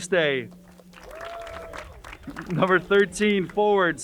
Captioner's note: crowd cheering and applauding